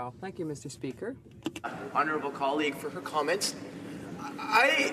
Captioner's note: speaking French